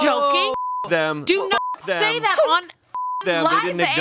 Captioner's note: beep; beep